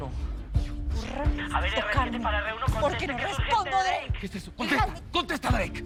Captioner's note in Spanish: Voz en la radio